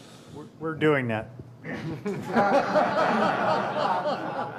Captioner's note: laughter